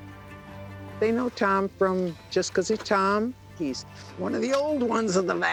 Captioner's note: none